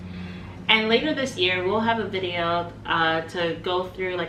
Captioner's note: inhales